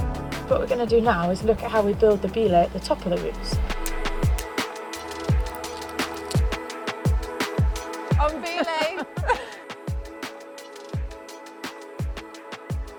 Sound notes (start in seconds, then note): 8.3 laughs